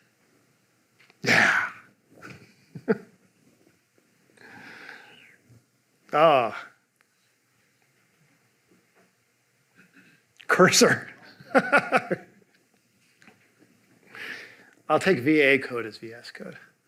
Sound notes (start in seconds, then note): 2.2 chuckling; 11.3 laughing